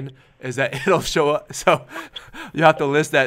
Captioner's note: laughs